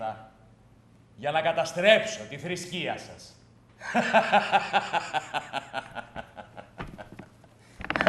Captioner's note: Γέλιο; κι άλλο γέλιο